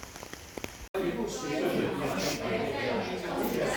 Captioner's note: ambient Café sounds